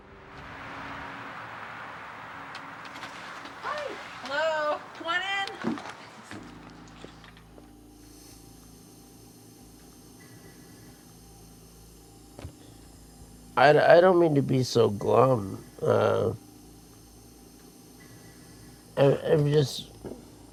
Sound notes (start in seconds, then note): 0.0 vehicle humming; 7.5 ventilator hissing